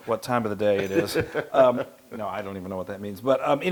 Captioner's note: laugh